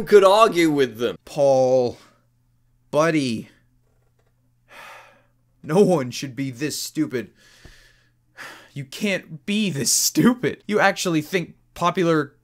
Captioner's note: sigh